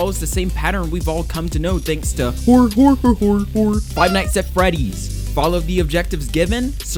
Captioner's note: hor hor hor hor hor